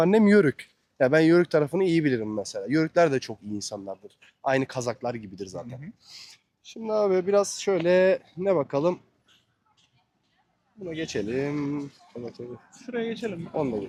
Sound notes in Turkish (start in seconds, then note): 6.6 homurdanır